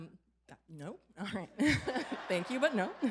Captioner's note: laughter